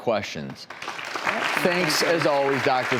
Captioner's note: audience clapping